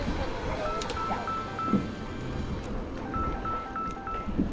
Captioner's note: phone rings